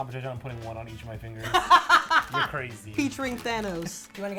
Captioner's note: laughing